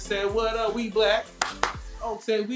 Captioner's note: claps